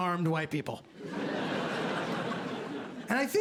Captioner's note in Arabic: ضحك